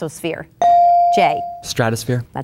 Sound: bell dinging

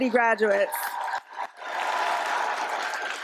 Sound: applause

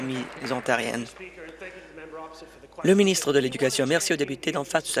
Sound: applause

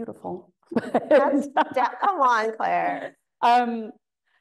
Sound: laughing

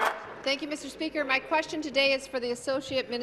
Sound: applause

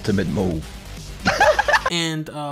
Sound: laughs

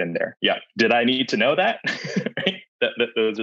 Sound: chuckles

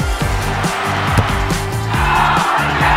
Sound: kicking thud

